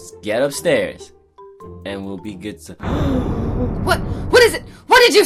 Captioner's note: gasps